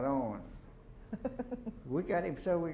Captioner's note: chuckles